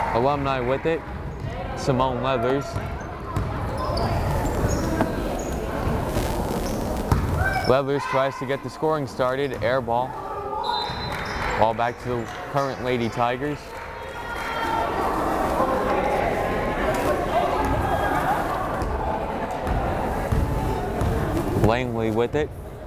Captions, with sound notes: Alumni with it, Simone Leathers. Leathers tries to get the scoring started, air ball. (whistle blows) Ball back to current Lady Tigers. (crowd chattering) Langley with it.